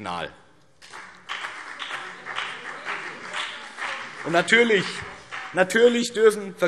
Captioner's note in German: Beifall BÜNDNIS 90/DIE GRÜNEN